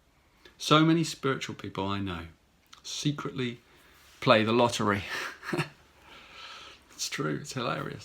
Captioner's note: chuckles